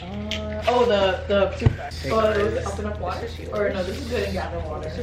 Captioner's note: everyone talking